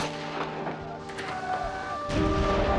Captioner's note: shouting